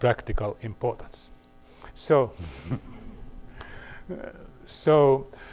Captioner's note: laughter